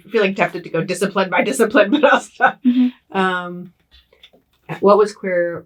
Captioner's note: laughs